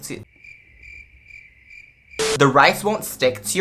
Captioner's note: cricket sounds